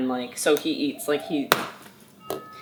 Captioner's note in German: Spielzeugklappern; Glockenklingeln